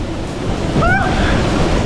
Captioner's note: screams